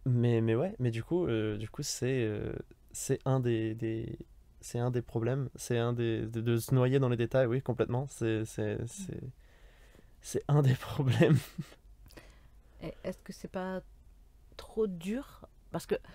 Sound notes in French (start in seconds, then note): 11.1 Rires